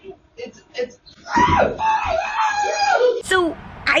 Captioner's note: screaming